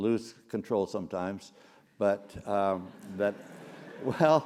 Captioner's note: laugh